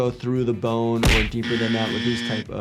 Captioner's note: punching music; buzzer buzzing